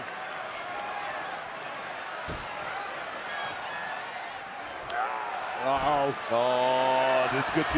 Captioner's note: applause